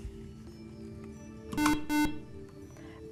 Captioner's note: buzzer